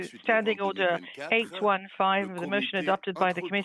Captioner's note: speaking French